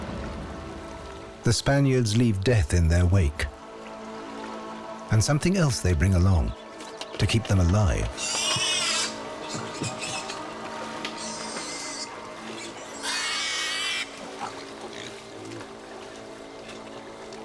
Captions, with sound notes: The Spaniards leave death in their wake, and something else they bring along to keep them alive. [pig squealing]